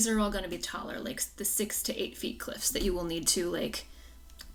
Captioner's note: none